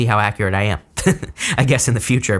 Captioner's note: chuckles